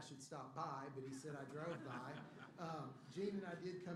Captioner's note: laughter